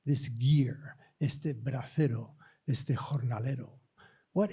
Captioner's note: speaking spanish